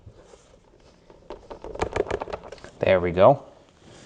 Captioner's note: tiles shaking